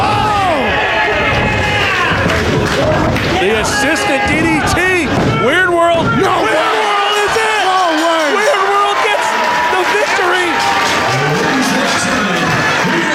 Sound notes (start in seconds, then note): 8.4 bell rings; 10.8 audience cheering